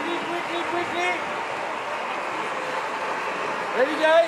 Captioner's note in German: Tosender Applaus, Jubel